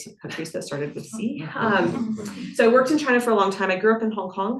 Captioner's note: students chuckling